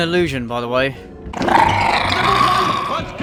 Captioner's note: hobgoblins growl